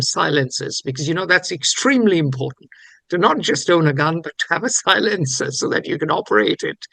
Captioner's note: laughs